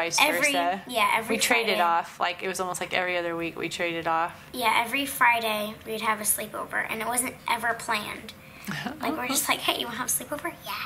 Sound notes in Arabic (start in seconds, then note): 8.7 يضحك